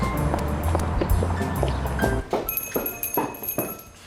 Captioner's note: footsteps; doorbell jingles